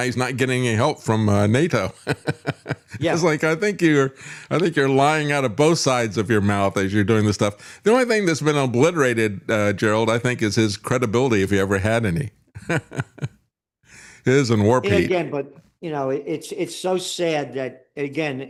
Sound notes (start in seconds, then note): 1.9 laughs